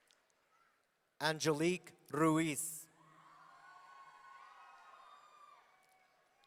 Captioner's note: audience cheering